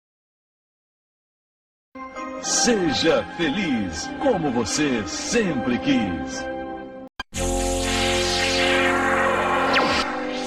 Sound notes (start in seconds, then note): 2.2 male announcer speaking Portuguese; 7.3 analog synthesizer music resumes